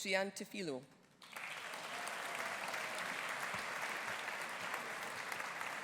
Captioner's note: audience applauding